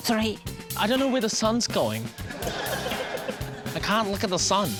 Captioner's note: laughter